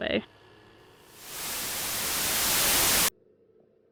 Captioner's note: television static